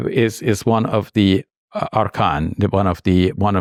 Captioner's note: speaks in Arabic